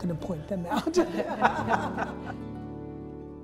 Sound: laughter

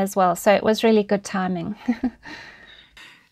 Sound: chuckles

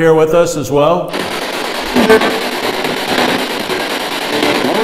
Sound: spirit box buzzing

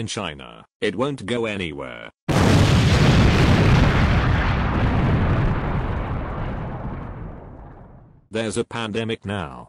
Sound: explosion sound

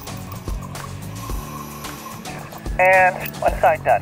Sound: air hisses

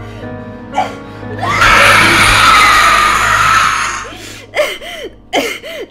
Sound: loud ghostly scream

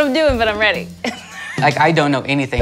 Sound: giggles

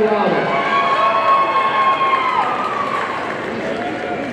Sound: audience cheering

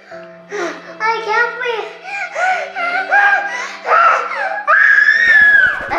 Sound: gasping

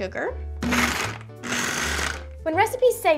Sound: blender whirring

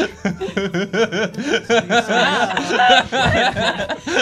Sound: laughter

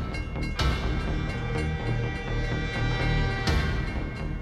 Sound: railway crossing rings continues; honks

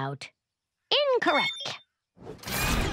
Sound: phone beeps

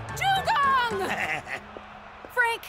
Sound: chuckling

